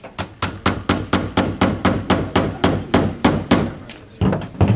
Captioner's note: hammering